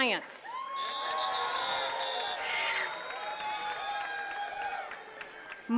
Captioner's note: attendees cheering and clapping